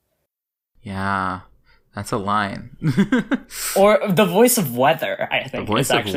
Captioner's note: laughs